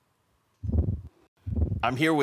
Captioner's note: silent; whoosh